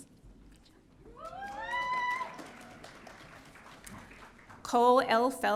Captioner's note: audience cheering